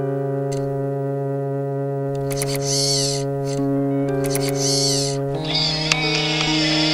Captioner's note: somber monotone music; animatronic whirs